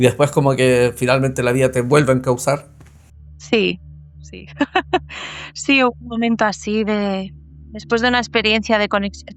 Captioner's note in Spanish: risas